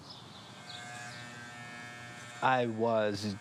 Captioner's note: buzzing